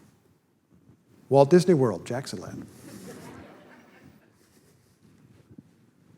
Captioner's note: audience laughter